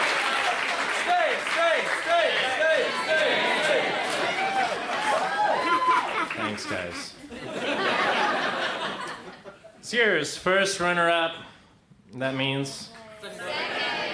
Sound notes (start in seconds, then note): 1.0 crowd chants "Stay"; 8.2 crowd laughs